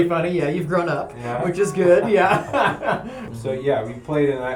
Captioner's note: laughter